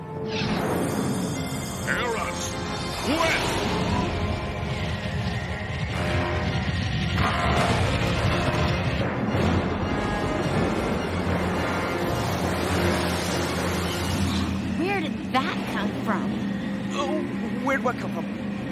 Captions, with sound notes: Aeras! West! (Wind rushing) Where did that come from? Where'd what come from?